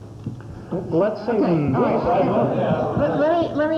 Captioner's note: laughter